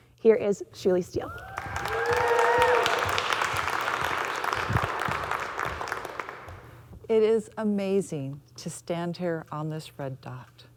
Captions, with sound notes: Here is Shirley Steele. [audience cheering] [audience clapping] It is amazing to stand here on this red dot,